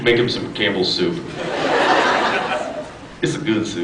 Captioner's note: laughs